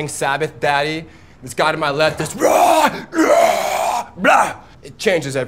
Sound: roaring

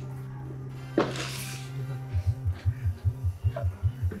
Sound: vibrator whirring

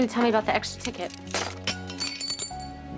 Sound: metallic clatter

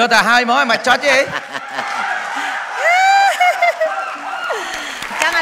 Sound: laughter

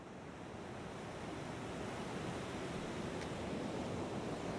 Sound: waves crashing

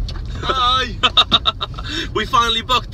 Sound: laughter

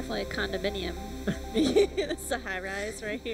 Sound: laughing

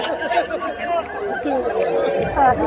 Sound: laughter

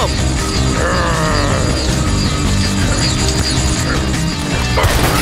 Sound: Blok grunts

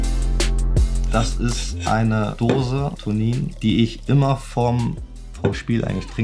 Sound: speaking foreign language

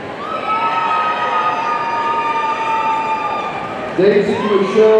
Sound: audience cheering

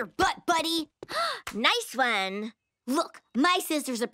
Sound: gasps

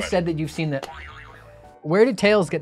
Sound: boy-yoy-yoy-yoing

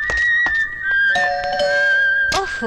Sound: door Bell

